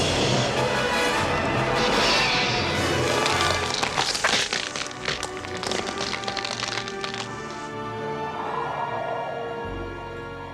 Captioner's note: gun Fires